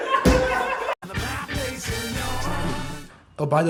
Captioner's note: Sohan's Hysterical Laughter